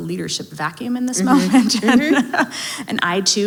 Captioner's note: laughs